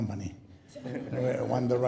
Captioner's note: laughing